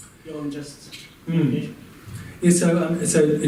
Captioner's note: muffled by microphone